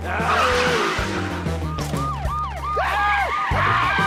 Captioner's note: siren wailing